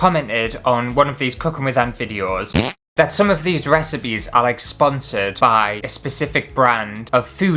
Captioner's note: fart!